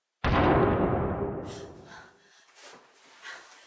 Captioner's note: loud crashing